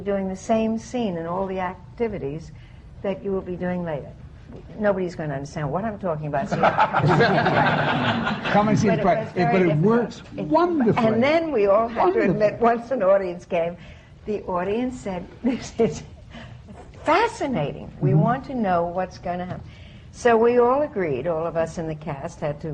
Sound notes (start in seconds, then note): 6.4 laughter